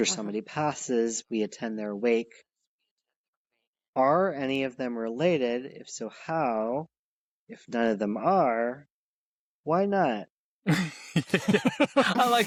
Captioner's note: laughter